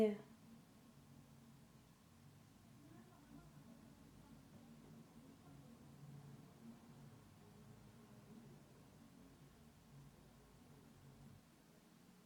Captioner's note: silence